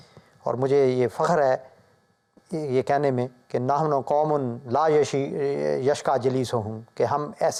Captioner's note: Arabic